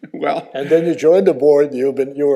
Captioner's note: laughs